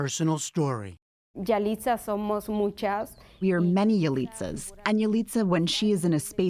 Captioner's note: through translator